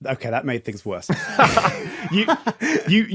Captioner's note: chuckling